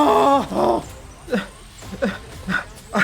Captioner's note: crying; screaming